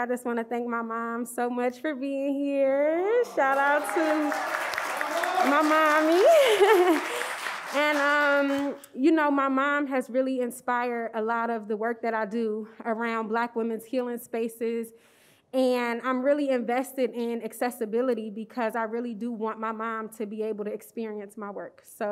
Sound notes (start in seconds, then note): 3.2 audience cheers; 7.0 laughs